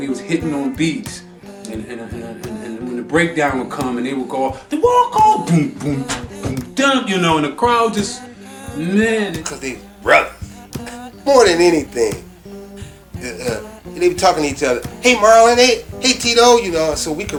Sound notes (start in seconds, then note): 4.4 beatboxing